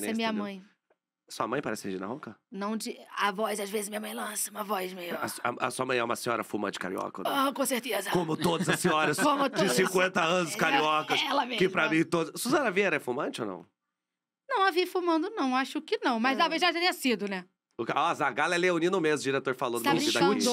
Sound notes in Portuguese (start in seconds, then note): 2.5 com voz rouca; 7.8 com voz rouca